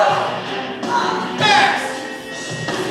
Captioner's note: groans in pain